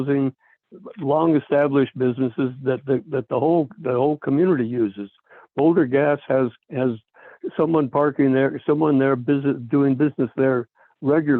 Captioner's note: by phone